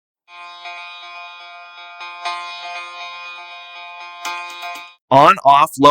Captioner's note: buzzing